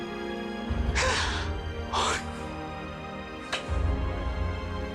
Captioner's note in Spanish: Sollozos